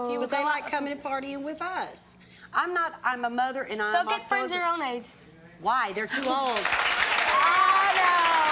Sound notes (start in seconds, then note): 6.2 clapping